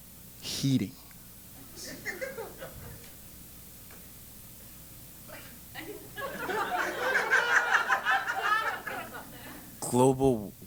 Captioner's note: laugh